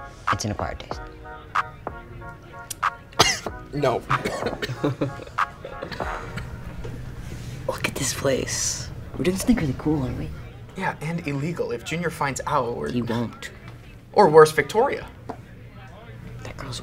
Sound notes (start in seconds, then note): 3.1 coughs